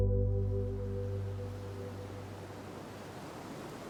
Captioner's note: water gushing